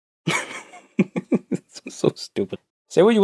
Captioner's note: laughing